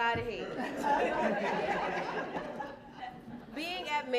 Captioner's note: laughter